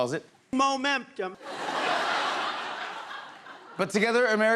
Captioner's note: laughter